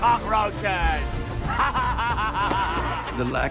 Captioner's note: all laughing